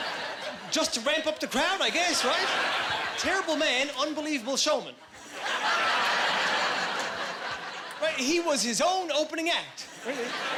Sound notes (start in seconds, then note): 6.3 laughing